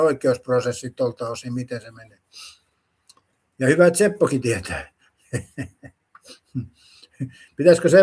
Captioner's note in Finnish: naurua